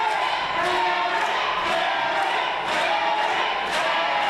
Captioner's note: rhythmic claps